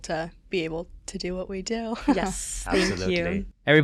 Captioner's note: chuckles